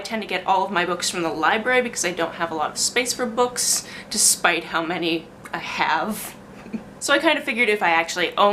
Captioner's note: giggles